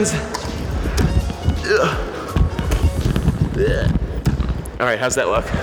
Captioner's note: strained; grunts